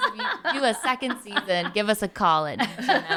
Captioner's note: laughing